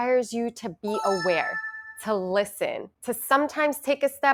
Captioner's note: chimes ringing